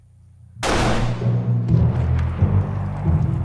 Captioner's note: gun fires